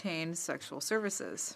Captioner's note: speaking French